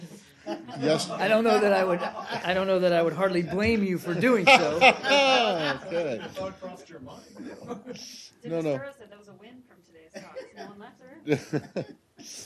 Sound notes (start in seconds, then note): 0.4 laughter; 4.1 laughter; 11.2 laughter